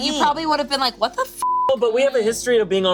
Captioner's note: beep